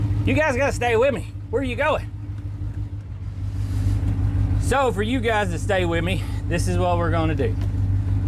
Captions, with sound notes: You guys gotta stay with me. Where you going? (Engine Revs) So for you guys to stay with me, this is what we're gonna do.